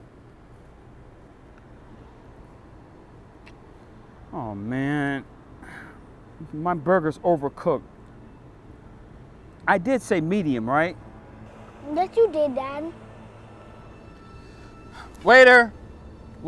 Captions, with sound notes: Oh, man. (sighs) My burger's overcooked. I did say medium, right? - Yes, you did, dad. - Waiter.